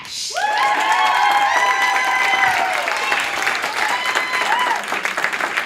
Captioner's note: applause